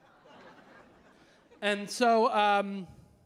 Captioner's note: audience laughing